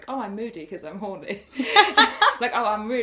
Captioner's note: laughter erupts